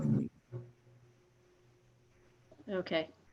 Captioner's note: silence